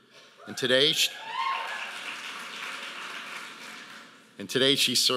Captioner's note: audience applauding